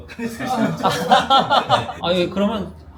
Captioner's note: laughs